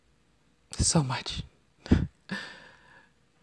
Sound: laughs

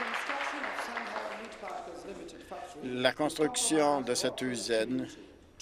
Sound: applause

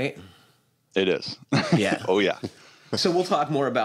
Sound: chuckles

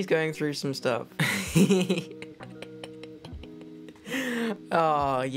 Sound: laughs loudly

